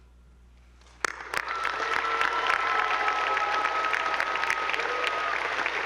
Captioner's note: attendees applauding